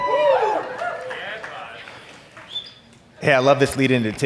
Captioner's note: audience cheer